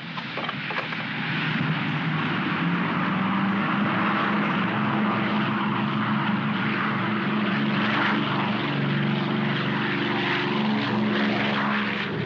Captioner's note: aircraft rumbles